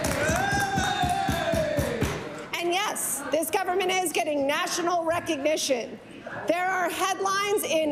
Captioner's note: applause